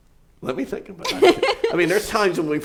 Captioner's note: laughs